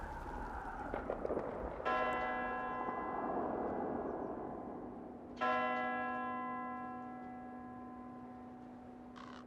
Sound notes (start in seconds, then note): 1.8 bell tolling